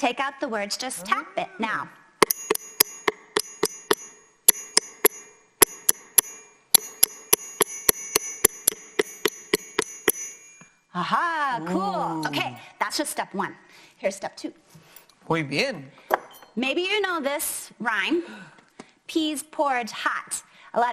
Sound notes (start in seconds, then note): 2.2 tapping to the rhythm